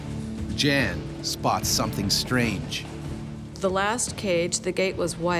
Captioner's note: voiceover